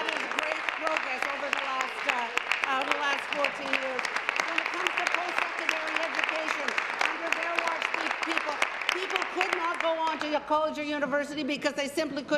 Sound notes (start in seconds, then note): 5.3 applause